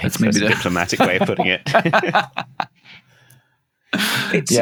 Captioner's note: laughter